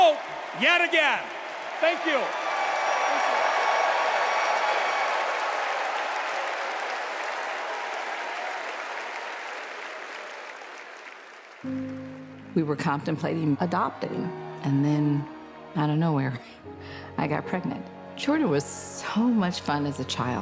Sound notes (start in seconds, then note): 5.5 cheers and applause